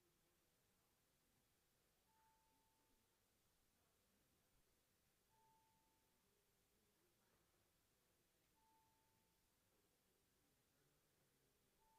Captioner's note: bells ringing